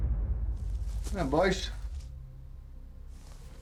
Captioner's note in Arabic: لكنة اسكتلندية